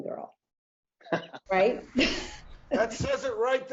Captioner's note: chuckles